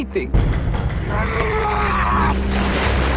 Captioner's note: Dexter yelling, raging